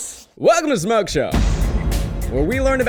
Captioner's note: bomb exploding